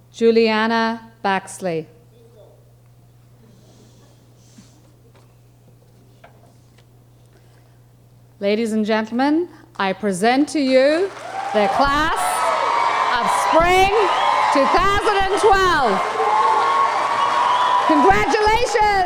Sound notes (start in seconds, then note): 3.4 audience shushing; 14.4 audience cheering